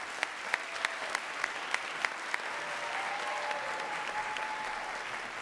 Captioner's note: audience claps